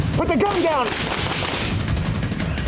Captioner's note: rapid gunfire; rapid drum beat